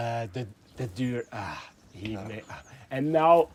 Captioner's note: sigh